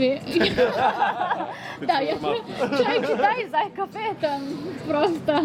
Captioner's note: laughing